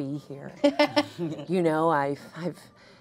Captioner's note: laughs